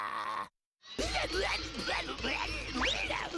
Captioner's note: grunting